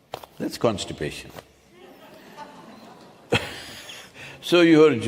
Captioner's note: few laugh